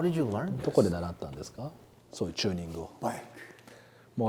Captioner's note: speaks Japanese